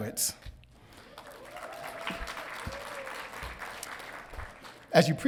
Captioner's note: audience cheering